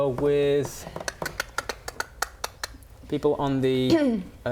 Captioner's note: horse hoofs clicking